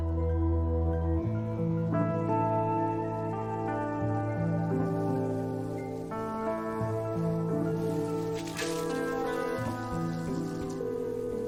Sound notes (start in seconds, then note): 7.9 cell phone ringing